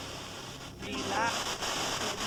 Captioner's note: spirit box voice